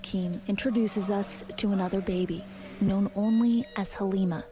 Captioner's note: speaking in a global language